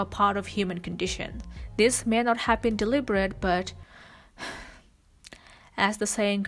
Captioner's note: sighs